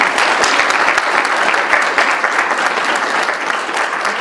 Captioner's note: audience applauding